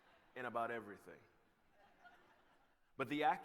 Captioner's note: laughter